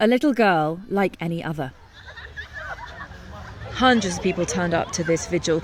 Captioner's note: crowd laughing